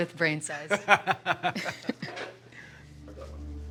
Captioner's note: both laughing; somber music